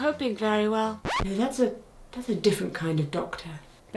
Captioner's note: audio scratches